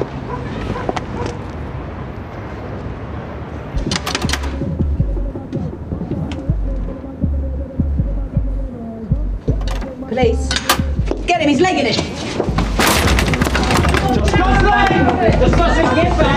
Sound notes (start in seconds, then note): 0.2 dog barking; 3.8 upbeat rap music; 3.8 letter flap rattles